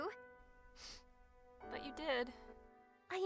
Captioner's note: sniffle